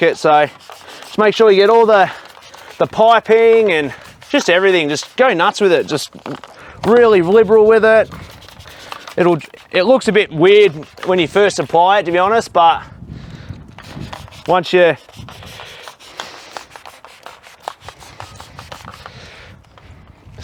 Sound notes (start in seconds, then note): 14.9 sprayer hissing